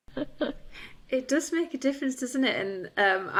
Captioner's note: chuckles